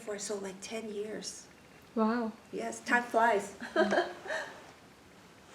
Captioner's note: laughs